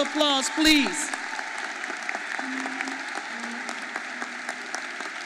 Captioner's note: audience applauding